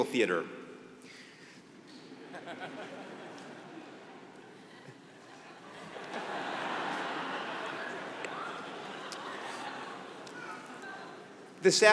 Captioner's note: laugh